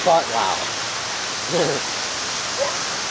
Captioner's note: stupid ass giggle